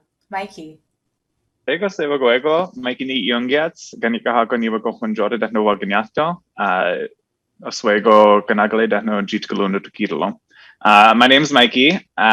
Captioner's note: speaking Mohawk